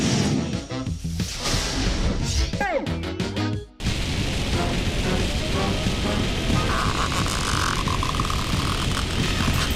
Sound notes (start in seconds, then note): 6.7 squeaking